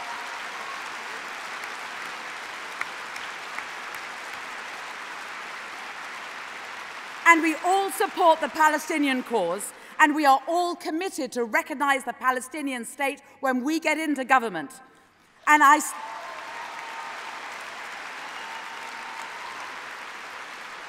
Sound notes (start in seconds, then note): 7.6 applause